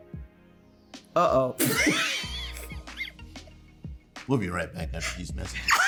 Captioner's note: laughter